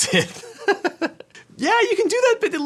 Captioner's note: he laughs